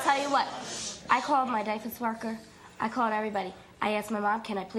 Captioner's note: none